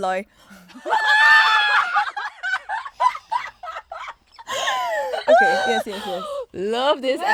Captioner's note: girls laughing